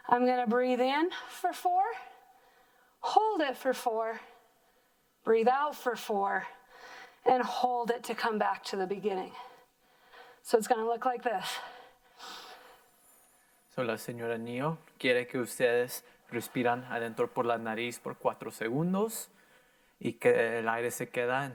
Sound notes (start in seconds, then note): 12.5 softly breathing; 13.8 in foreign language